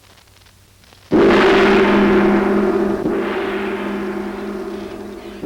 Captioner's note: gong chiming